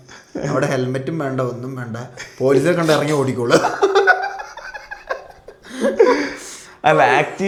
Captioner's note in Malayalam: പൊട്ടിച്ചിരി